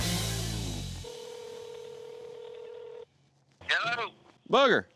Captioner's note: dialing, ringing